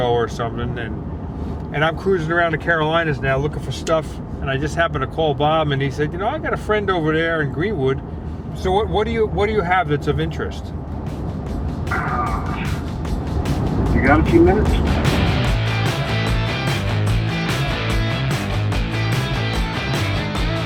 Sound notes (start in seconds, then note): 11.9 sighs; 15.0 upbeat rock music